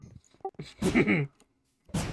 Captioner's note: laughing